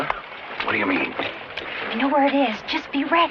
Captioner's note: whispering